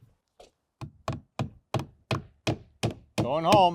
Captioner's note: hammer knocking